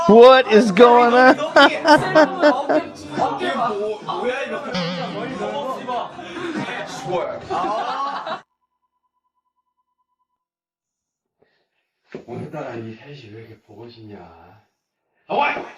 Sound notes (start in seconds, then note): 7.9 laughs